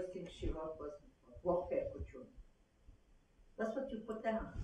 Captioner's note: non-english